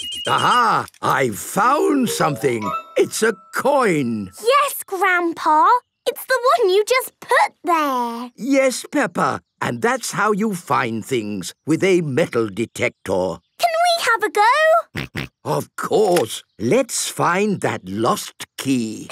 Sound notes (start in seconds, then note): 15.0 snorting